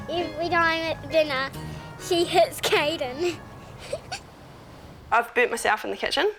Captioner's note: laughs